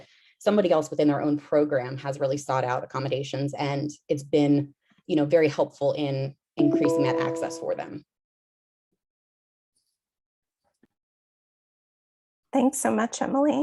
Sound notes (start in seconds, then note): 6.6 computer tone